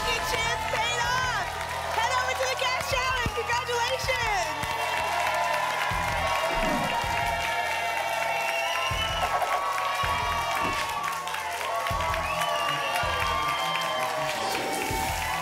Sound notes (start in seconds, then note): 4.7 applause and cheering; 6.5 whoosh; 7.5 applause and cheering cont